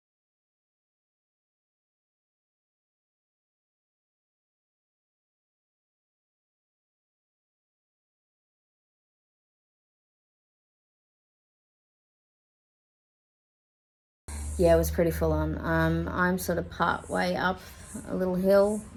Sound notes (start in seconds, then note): none